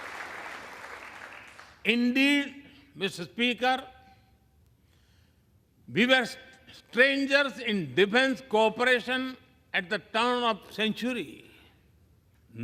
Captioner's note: applause